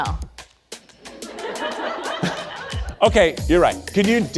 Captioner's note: audience laughs